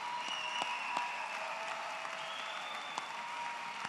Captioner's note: applause